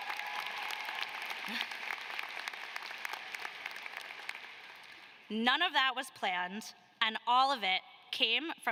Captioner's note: applause